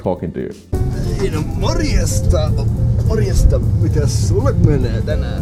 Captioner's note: speaking foreign language